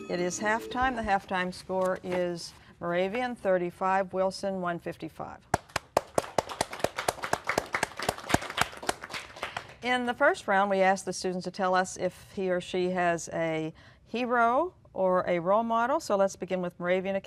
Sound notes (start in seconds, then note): 5.6 applause